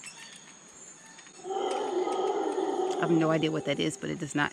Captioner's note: animal roars